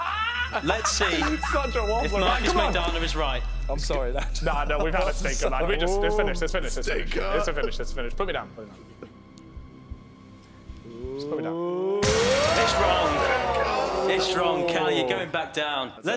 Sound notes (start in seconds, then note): 10.6 sinister music; 10.9 groaning; 12.7 dramatic crescendo